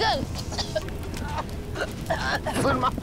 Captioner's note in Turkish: Öksürük Sesleri